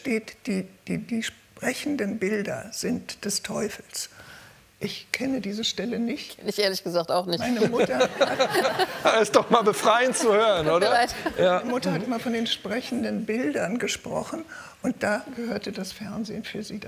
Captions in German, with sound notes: Weil in der Bibel steht, die sprechenden Bilder sind des Teufels. Ich kenne diese Stelle nicht. Ich, ehrlich gesagt, auch nicht. (Lachen) Das ist doch mal befreiend zu hören. - Tut mir leid. Ja. Meine Mutter hat immer von den sprechenden Bildern gesprochen.